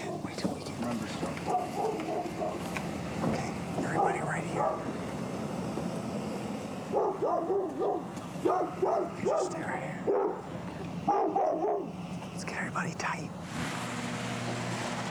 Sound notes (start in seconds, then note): 6.7 dog barking